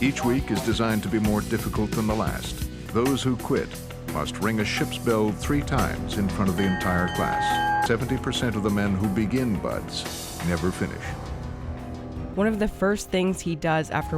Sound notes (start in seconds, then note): 6.1 bell ringing